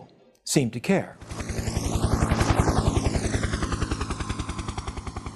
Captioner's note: helicopter